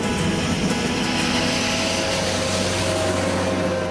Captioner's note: plow whirring loudly